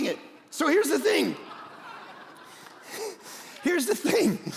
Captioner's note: congregation laughing